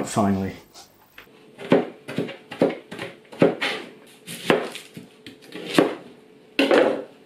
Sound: chop chop chop

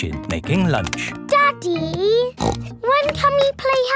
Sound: snorts

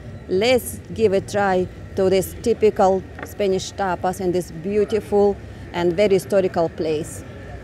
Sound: street noise

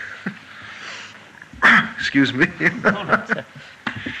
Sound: laughter

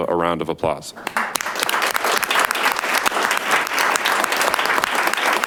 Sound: audience applauding

